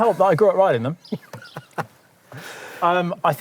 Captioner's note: laughs